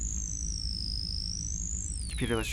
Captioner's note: computer whirs and beeps